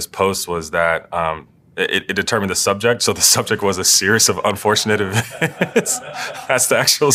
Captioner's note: laugh